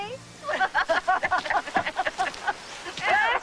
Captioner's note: laughing